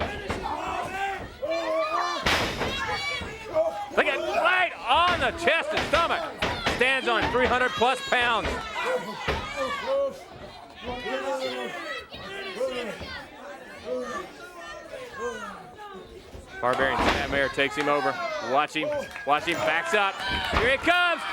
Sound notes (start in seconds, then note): 0.2 crowd cheering; 9.1 crowd chatter